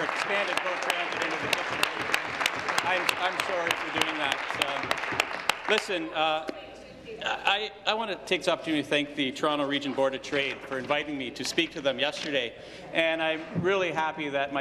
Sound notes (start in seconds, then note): 6.4 applause